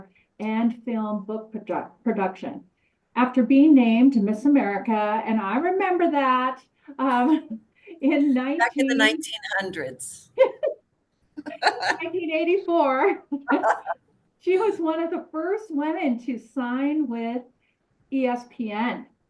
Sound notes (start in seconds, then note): 11.4 laughter